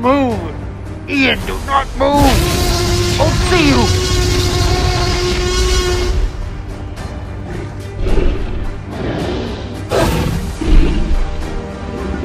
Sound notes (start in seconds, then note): 3.7 roaring; 9.9 growling